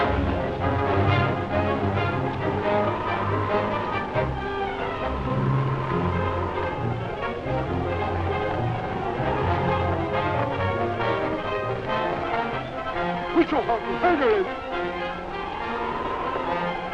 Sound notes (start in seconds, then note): 13.5 speaking native american language